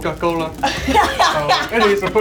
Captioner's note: laughing